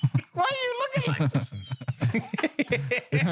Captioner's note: laughing